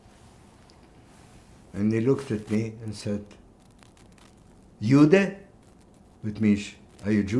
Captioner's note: german